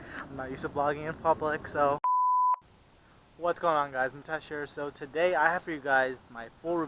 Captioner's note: beep